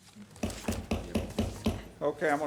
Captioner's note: gavel banging